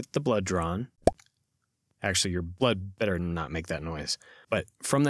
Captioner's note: pop